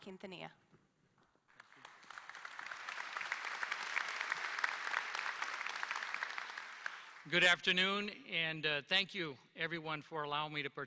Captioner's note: applause